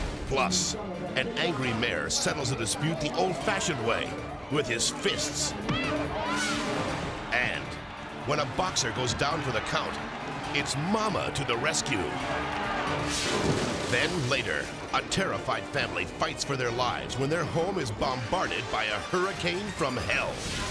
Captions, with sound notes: Plus an angry mayor settles a dispute the old fashioned way with his fists. (people shouting) And when a boxer goes down for the count, it's mama to the rescue. Then later, a terrified family fights for their lives when their home is bombarded by a hurricane from hell.